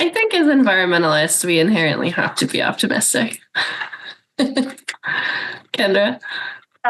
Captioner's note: laughs